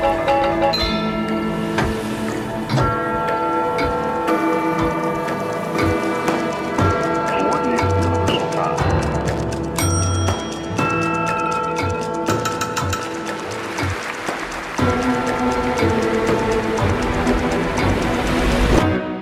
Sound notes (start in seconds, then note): 6.7 clock ticking; 8.9 clock ticking intensifies; 9.7 desk bell dinging; 12.8 music instrument tapping; 13.3 waves whooshing